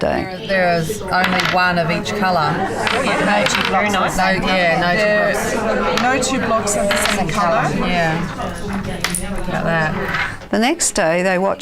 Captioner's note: audience chatter